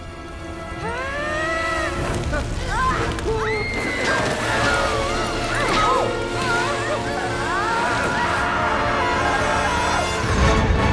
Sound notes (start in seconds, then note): 0.8 screaming; 3.2 screaming